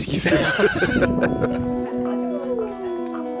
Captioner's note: both laugh